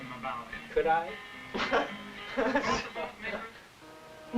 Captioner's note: laughing